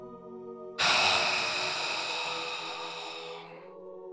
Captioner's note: sighs